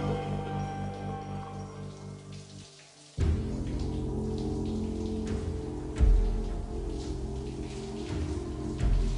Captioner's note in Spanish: Sonido de agua cayendo